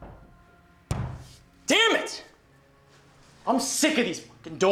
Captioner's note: doorknob rattling; Tyler hits door